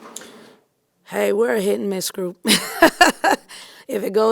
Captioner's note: laughing